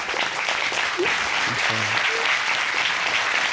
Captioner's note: sobbing; applauding continues